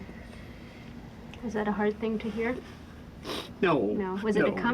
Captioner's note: sniffles